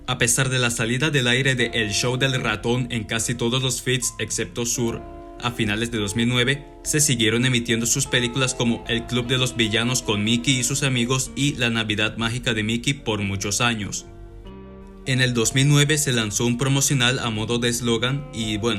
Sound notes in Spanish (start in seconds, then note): none